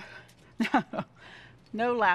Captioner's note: chuckles